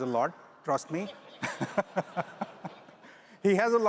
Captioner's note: all laugh